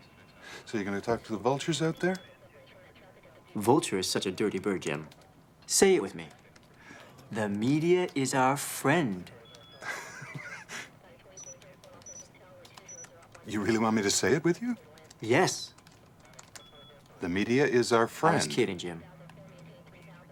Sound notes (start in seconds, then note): 11.3 bird honk; 18.0 alarm; 19.4 phone filter speech